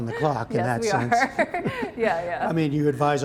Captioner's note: laughter